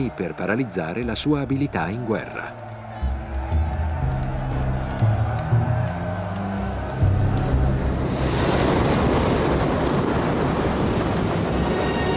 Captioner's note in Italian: Applauso